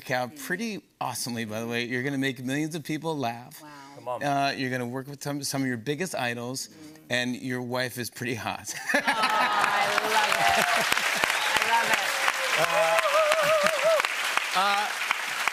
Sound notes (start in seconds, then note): 8.7 laughter; 9.0 cheers and applause